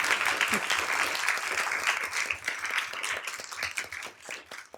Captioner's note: applause